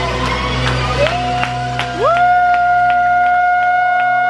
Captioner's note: crowd cheering